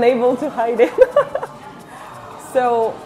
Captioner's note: giggles in French